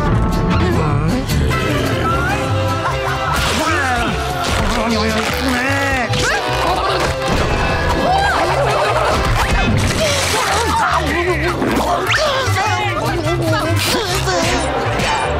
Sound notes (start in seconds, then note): 7.7 groaning